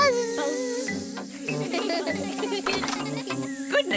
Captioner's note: all laugh